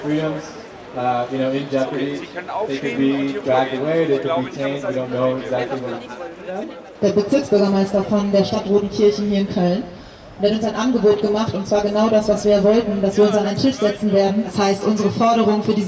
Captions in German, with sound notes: (Lautsprecher:) Der Bezirksbürgermeister von der Stadt Rodenkirchen hier in Köln hat uns ein Angebot gemacht, dass wir uns an einen Tisch setzen werden,